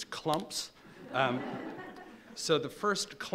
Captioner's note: laughing